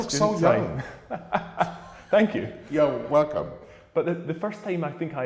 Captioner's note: laughs